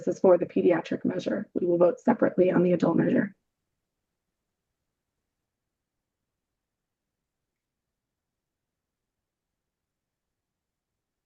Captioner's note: pause